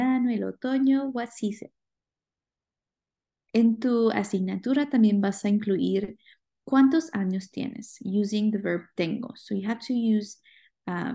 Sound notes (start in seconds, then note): 3.4 speaking spanish